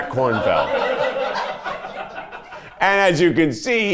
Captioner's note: everyone laughs